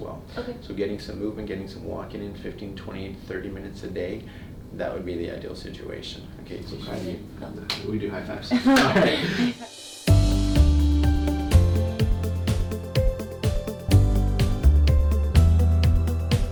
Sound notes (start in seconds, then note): 8.5 dr. and patient laughing; 8.6 gentle upbeat music